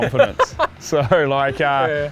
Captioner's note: laughs